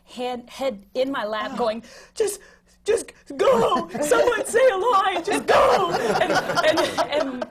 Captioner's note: laughter